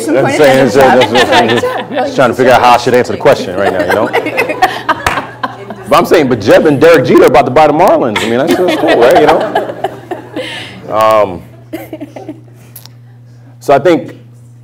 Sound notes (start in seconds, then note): 4.9 laughter